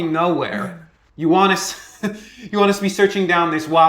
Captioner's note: chuckles